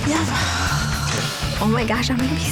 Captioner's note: sighs